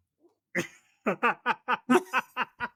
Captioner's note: laughing